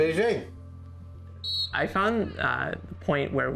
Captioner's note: whistle blows